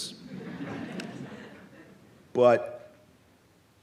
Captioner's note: audience laughs